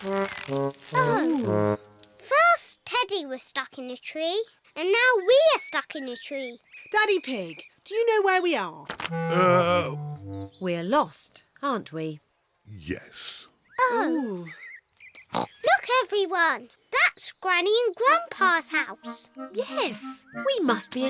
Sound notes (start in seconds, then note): 15.3 oinks